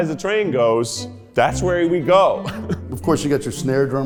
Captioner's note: laughs